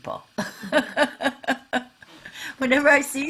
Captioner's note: laughing